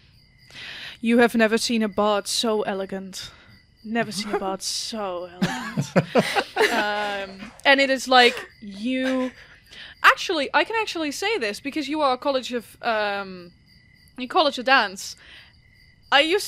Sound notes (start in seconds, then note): 5.4 laughter